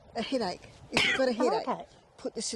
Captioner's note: coughs